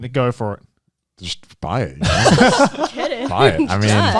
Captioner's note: laughing